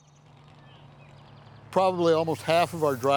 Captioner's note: birds chirping